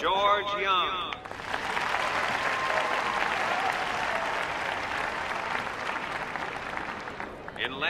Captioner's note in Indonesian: tepuk tangan